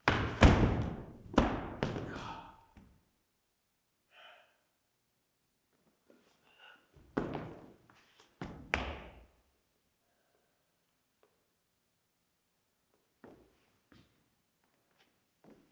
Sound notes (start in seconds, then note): 0.0 body thudding; 2.0 Jacob groans